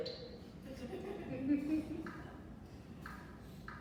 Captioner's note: audience laughs